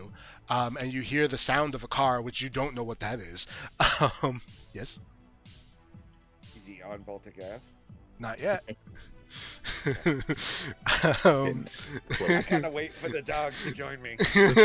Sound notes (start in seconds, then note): 9.6 chuckles; 14.1 laughter